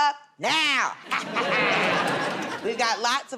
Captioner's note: laughter